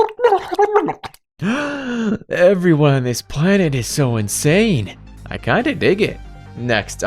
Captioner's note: gasping